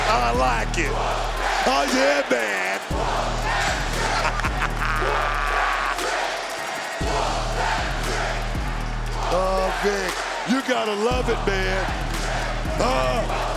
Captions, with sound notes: I like it. Aw yeah, man! (laughs) Oh Vic, you gotta love it, man.